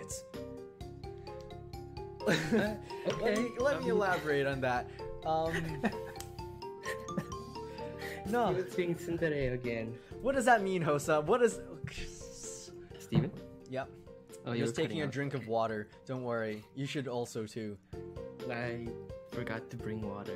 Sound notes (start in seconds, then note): 5.4 laughs